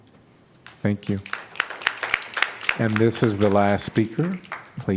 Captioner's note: applause